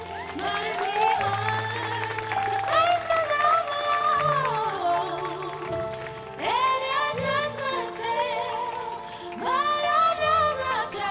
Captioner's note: applause